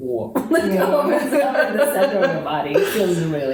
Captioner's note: laughter